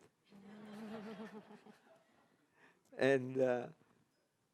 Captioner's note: audience laughing